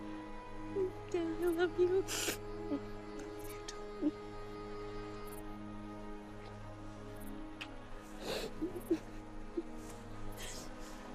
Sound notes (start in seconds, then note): 1.3 Karen crying; 8.3 Karen crying